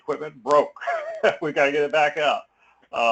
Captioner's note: laugh